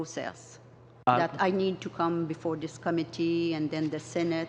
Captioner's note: speaking in french